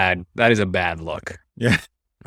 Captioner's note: laughs